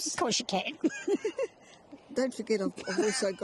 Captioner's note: laughs